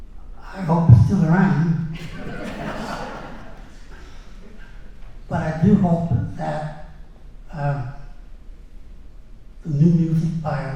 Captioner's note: laughter